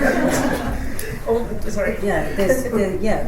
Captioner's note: laughter